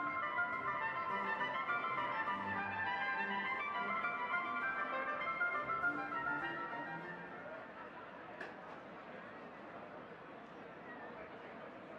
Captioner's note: audience chattering